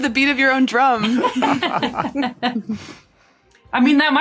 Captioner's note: group laughing